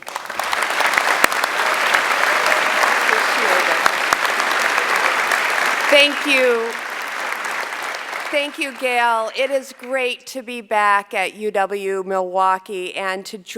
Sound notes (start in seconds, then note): 4.2 applause